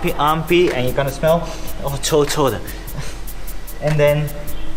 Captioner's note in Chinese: 哈哈哈哈哈